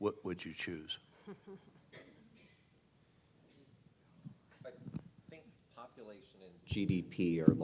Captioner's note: laugh